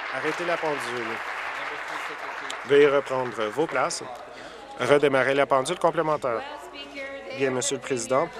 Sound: applause

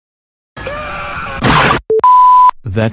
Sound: Peter Parker Scream & Squash

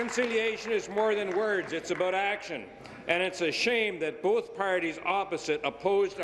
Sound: applause

